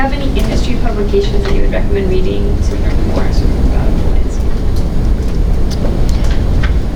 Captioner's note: speaker audio fades